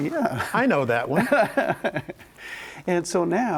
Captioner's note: laughing